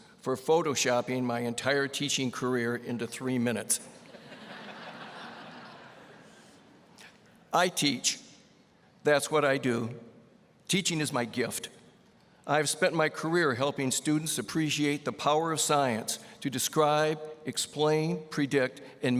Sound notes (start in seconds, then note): 4.0 audience laughing